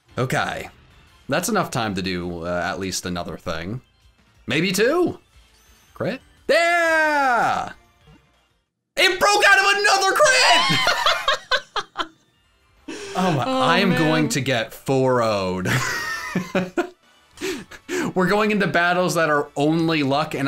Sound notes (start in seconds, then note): 10.4 laughing; 17.1 laughs